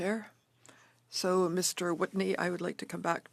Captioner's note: speaking French